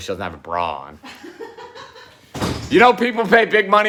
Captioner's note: laughing